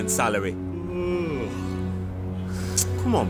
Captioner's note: mimic YAWN